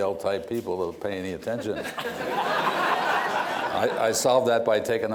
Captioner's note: laughter